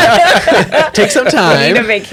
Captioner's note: laughter